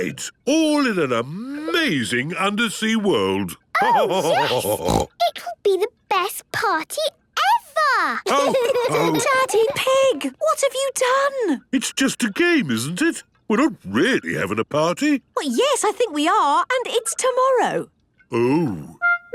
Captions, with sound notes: all in an amazing undersea world. (laughter and snorting) - Oh, yes! It could be the best party ever! (laughter) - Daddy Pig! What have you done? - It's just a game, isn't it? We're not really having a party. - Yes, I think we are. And it's tomorrow. - Oh.